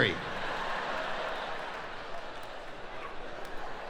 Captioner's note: laughing